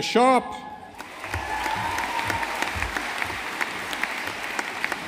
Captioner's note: audience applauding